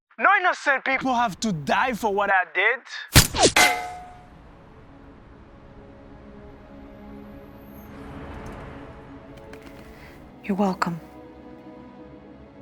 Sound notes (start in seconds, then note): 3.1 gun firing; 3.5 metal rail clanging